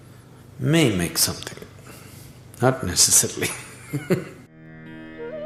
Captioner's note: laughs